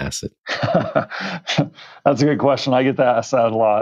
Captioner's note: laughs